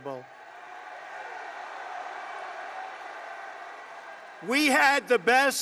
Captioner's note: applause